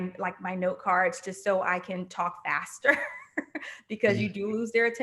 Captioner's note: chuckling